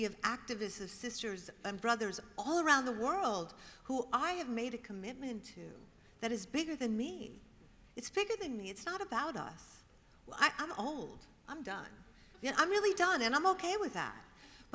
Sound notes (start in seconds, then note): none